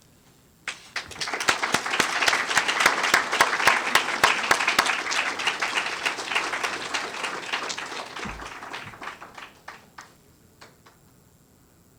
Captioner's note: applause